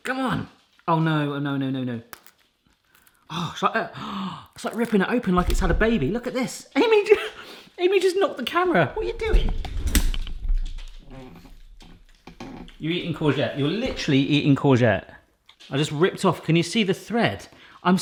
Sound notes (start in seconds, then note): 3.9 gasps